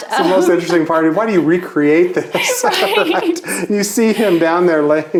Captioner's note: laughs